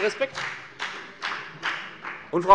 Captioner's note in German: Beifall bei der FDP